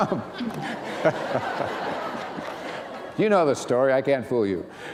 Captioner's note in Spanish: risas